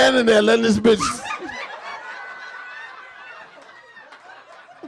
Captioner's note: audience laughing